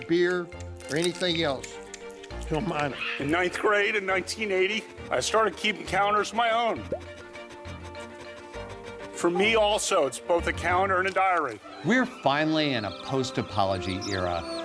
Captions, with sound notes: beer or anything else, to a minor. -In ninth grade in 1980, I started keeping calendars of my own. [ Puppies panting ] For me, also, it's both a calendar and a diary. -We're finally in a post-apology era